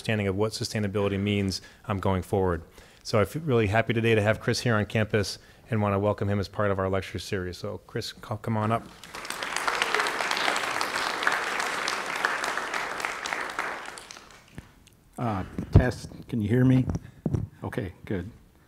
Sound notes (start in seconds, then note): 8.8 audience applauding